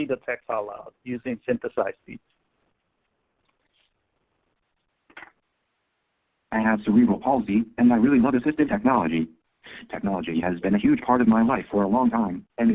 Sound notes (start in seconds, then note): 6.6 voiceover